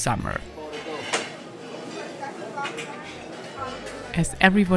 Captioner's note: people chattering